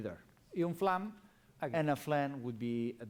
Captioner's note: non-english speech